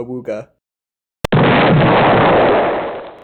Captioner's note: one more explosion for good measure